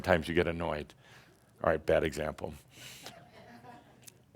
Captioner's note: a few chuckles